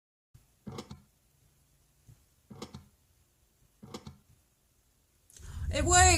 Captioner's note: sound of three buttons clicking in to place